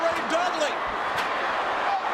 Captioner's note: applause